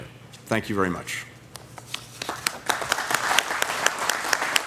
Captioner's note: applause